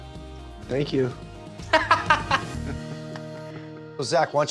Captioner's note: laughs